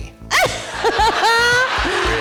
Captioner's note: audience applause